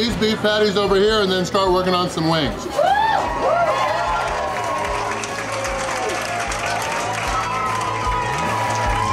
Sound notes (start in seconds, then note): 2.7 clapping and cheering; 2.8 crowd